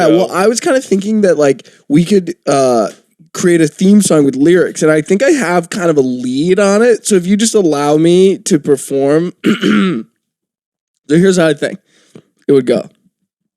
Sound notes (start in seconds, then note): 9.4 clears the mucus from throat